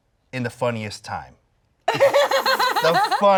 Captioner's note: laughing